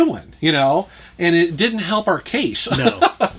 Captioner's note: laughs